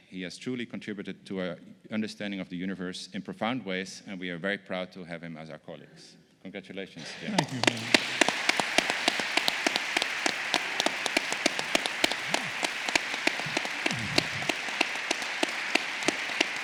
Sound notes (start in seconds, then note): 8.2 applause